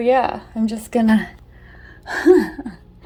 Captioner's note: laughs